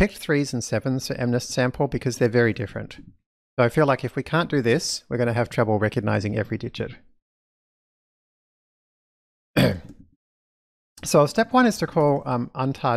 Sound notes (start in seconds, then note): 9.5 coughs